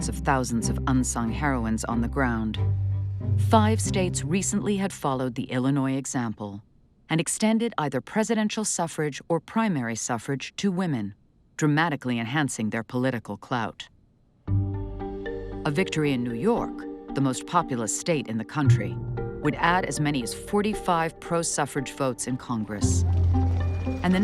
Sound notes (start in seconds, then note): none